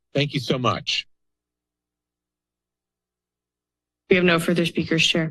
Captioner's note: silence